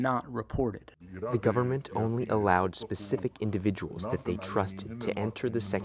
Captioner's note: through translator